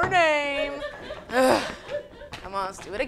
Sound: laughing

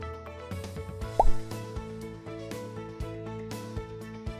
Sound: "Pop" sound effect

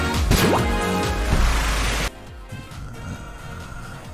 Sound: grumble

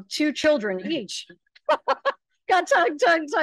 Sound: laughing

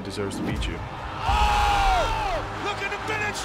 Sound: both yelling

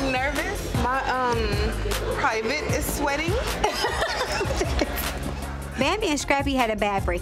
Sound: Tammy giggling

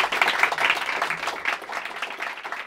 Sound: applause

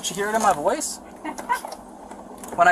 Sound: female laughs

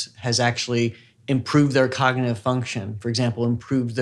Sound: none

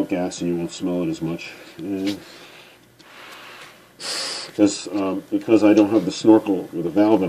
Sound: exhaling

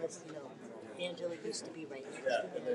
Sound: none

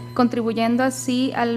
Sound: speaking foreign language

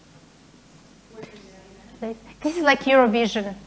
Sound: murmuring

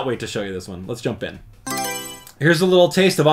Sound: Mario Selection Sound

